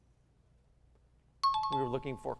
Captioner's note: timer